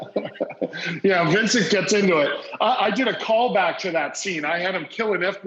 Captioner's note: laughs